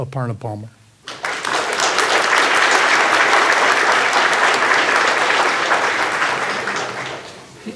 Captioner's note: audience clapping